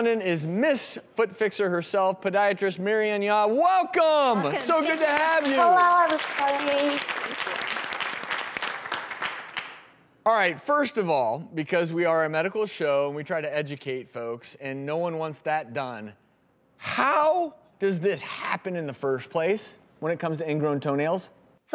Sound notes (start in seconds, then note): 8.4 audience applause